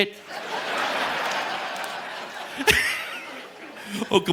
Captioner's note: audience laughing; laughs